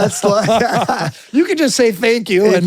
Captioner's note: both laughing